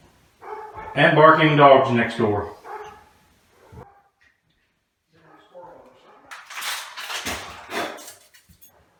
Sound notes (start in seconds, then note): 0.4 barking dogs; 2.6 barking dogs